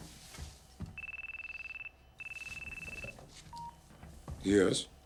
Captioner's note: phone ringing